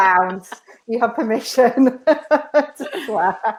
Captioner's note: both laughing; laughs